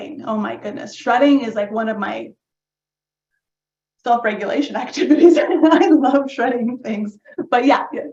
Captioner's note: laugh